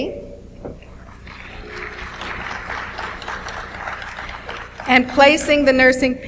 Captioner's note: audience applauds